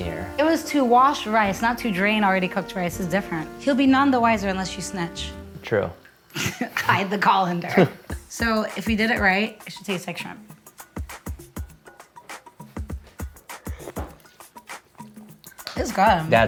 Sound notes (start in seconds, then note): 6.3 laughs; 10.7 gentle funky music